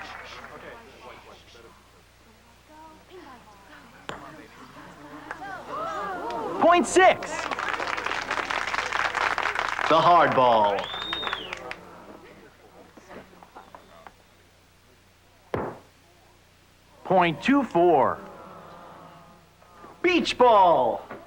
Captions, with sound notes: [APPLAUSE] THE HARD BALL. [WHISTLES] OH... OH... BEACH BALL!